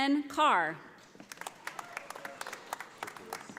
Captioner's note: audience applauding